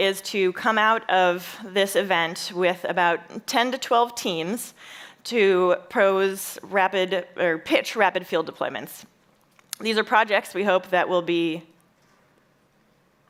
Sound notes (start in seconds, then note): none